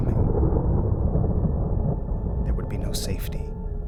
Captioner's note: thunder rumbling